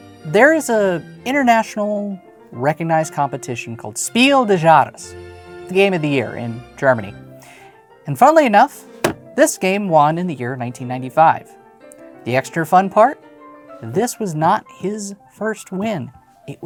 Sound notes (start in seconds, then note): 9.0 slaps box